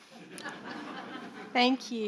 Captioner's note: audience laughing